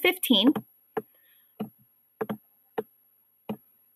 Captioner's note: typing